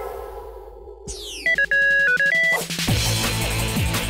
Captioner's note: beeping; theme song